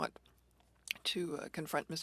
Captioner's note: speaking French